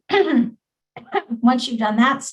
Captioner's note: coughs